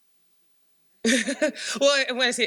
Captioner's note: laughs